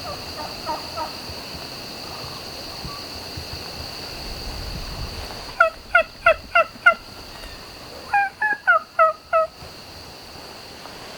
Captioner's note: turkeys yelping/gobbling